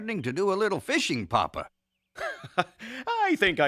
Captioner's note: sighing